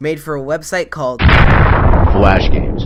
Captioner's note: explosion